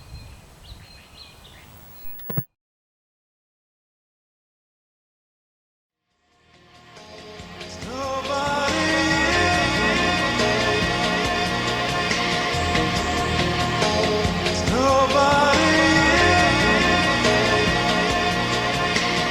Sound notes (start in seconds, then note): 0.2 TV static; 2.0 TV turns off